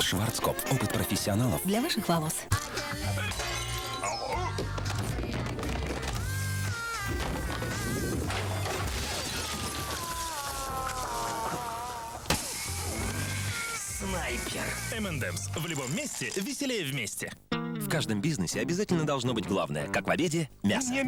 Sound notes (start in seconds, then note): 2.5 knock